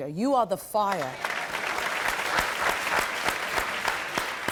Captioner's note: crowd clapping